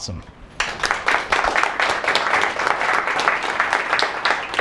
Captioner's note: clapping